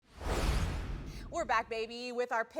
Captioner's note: logo whoosh